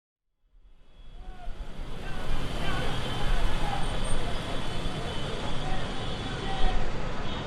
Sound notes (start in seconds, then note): 0.6 city ambience